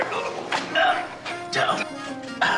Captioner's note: grunting